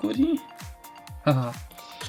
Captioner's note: laughing